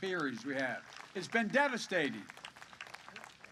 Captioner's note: applause